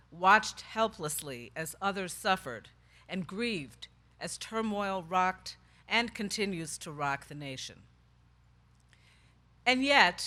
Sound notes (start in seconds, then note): none